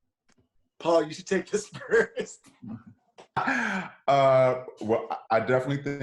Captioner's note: laughs